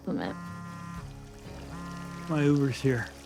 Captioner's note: phone buzzing